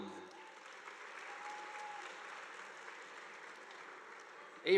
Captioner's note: audience applauding